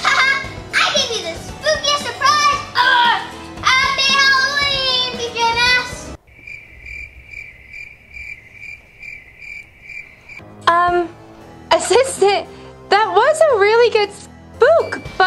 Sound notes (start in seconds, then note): 6.1 chirping